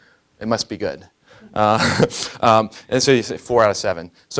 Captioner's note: laughing